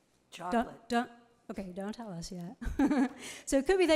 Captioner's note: laughs